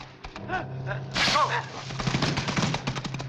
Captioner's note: grunting